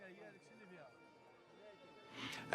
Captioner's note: speaking Arabic